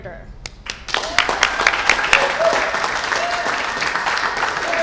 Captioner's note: cheers and applause